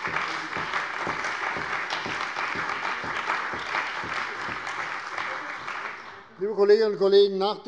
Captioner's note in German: Beifall bei der CDU und dem BÜNDNIS 90/DIE GRÜNEN